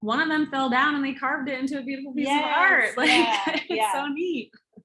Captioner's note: laughs